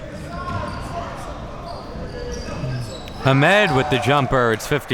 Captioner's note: spectators chattering